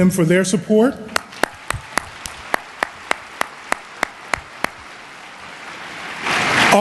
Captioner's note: applause